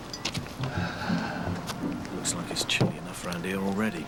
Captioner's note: sighs